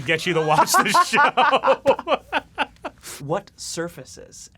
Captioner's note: laugh